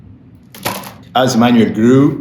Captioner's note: book clatters